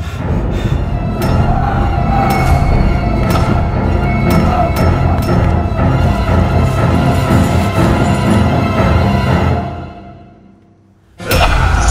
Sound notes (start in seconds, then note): 1.3 screams; 11.2 screams